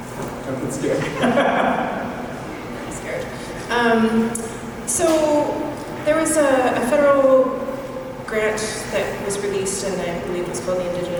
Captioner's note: laughter